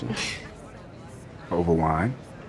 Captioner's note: Camille scoffs